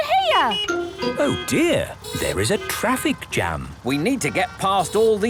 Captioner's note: honking; brakes screeching